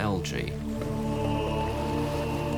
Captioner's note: men chanting